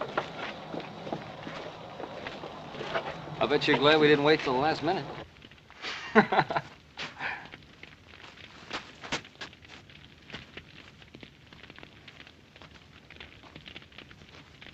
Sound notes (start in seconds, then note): 6.1 laughs